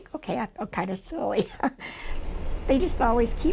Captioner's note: laughs